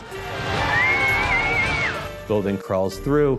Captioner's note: cheering